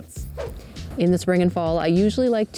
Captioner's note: air whooshing